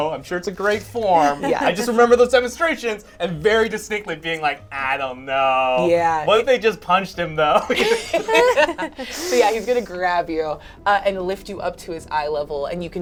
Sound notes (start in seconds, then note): 7.6 all laugh